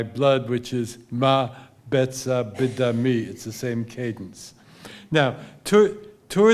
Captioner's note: speaking hebrew